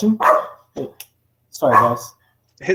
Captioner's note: dog barking